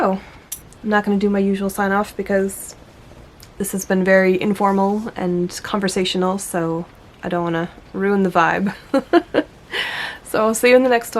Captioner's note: laughs